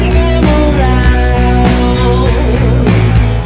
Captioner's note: none